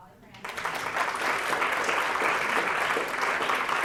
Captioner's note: applause